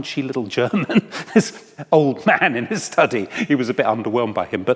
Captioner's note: chuckles